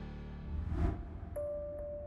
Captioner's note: air whooshes; soft music